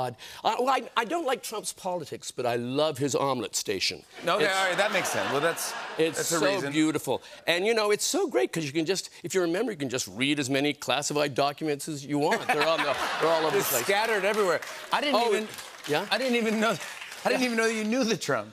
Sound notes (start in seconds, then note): 4.5 laughter